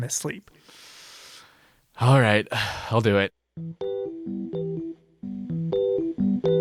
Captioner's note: sighs